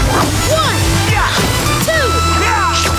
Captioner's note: grunting